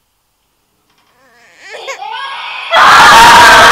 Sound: crying suddenly starts again

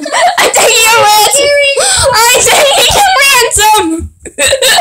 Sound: laughing

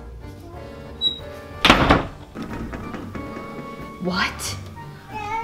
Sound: door shuts

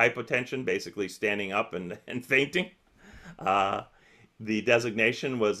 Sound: chuckles

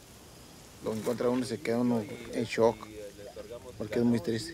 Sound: man speaks Spanish

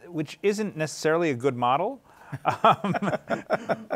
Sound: laughs

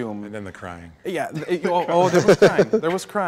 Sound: all laughing

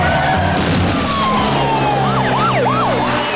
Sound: sirens blaring

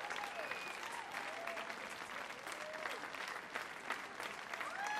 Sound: audience applauds

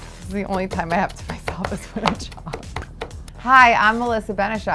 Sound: laughs

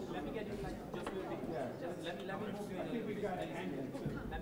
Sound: photographers murmuring

